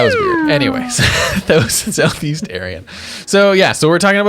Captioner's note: chuckles